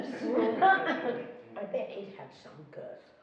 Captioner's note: laughing